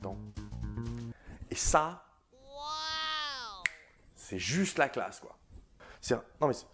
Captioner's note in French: Waaaaaah